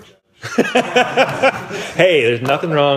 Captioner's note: laughing